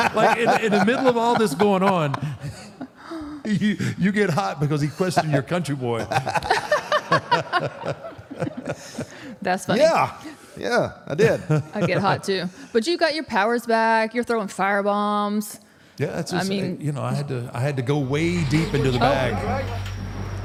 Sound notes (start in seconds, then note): 4.6 AJ and Michelle laughs